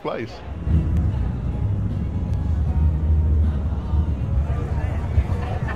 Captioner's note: motorcycles whirring; bright music